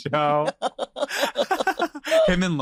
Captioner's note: both laugh